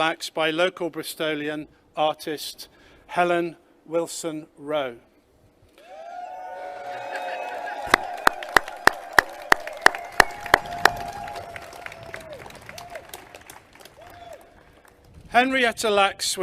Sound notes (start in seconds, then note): 5.8 clapping and cheering